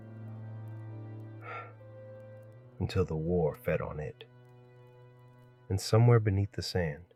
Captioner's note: exhales